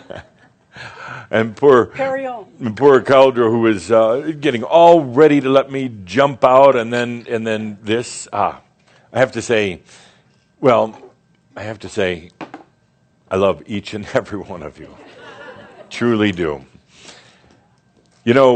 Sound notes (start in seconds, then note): 14.8 more chuckles